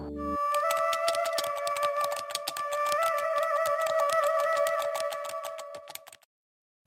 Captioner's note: eerie music; keys typing